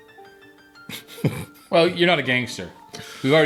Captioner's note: laughs